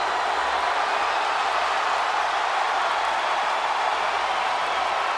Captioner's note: crowd cheering